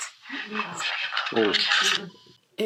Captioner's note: recording crackles